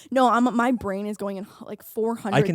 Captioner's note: laughing